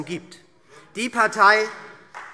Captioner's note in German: Beifall SPD